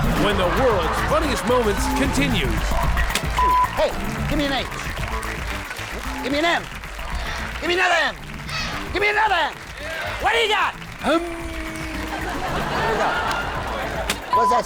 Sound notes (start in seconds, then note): 2.7 audience applauds; 3.3 beep; 12.8 audience laughs